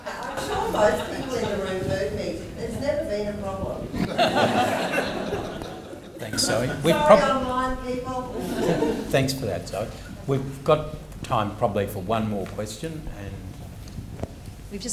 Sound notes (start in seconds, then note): 0.0 all laughing; 3.9 all laughing